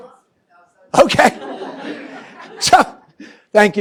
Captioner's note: laughter